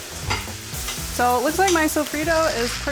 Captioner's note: oil sizzling; upbeat groove music; bowl clinks